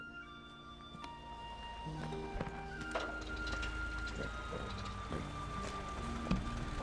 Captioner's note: car approaches